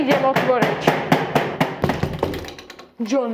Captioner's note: door opening